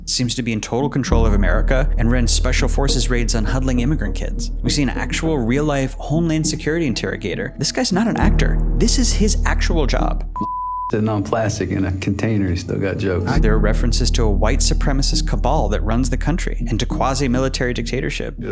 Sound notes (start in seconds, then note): 10.2 beeping